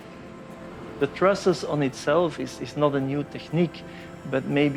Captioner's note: construction sounds fade